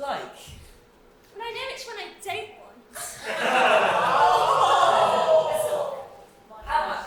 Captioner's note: audience laughs and awwws